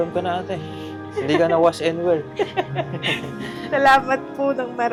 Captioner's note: laughing